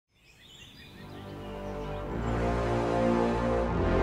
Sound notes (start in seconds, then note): 0.1 birds chirping